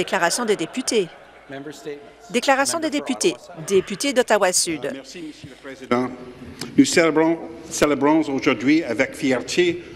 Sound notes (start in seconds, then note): 2.5 laughter; 8.6 speaking French